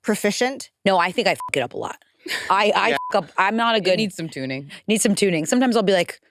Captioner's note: beep